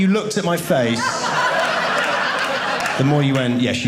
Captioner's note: audience laughing